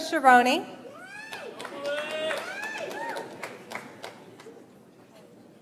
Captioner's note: audience applauds